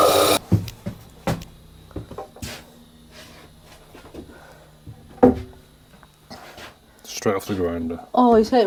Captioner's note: hammering